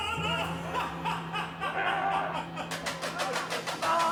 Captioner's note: laughter echoes